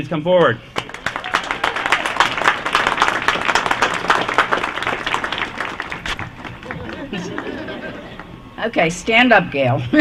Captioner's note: applause